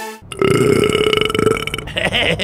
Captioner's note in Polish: beknięcie